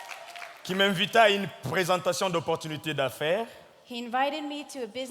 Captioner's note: audience clapping; speaking in French